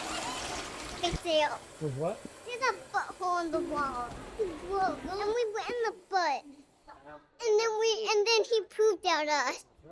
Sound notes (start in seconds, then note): 2.1 toilet Flushing